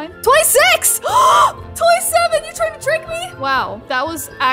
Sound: gasps

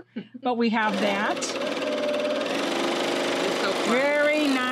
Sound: machine whirring

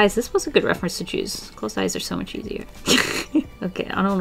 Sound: laughs

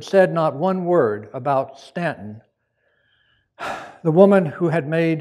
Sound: sighs

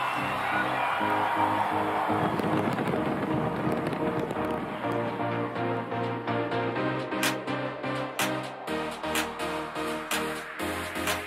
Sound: cheers and Applause

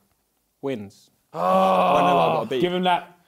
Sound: grunting

